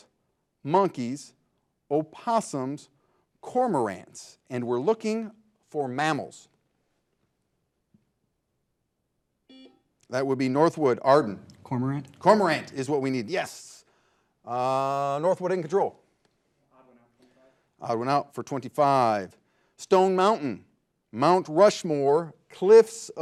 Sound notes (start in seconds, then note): 9.5 buzzer buzzing